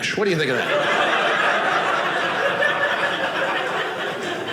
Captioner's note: audience laughing